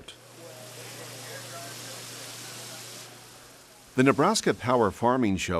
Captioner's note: water spraying